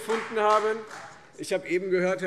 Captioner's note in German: Beifall Freie Demokraten